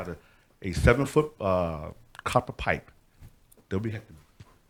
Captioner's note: speaks off microphone